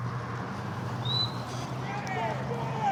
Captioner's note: whistle; indistinct shouting